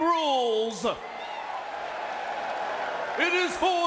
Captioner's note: spectators cheering